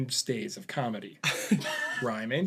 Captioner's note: laugh